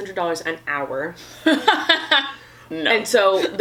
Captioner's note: laughs